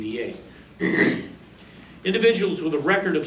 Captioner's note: clears throat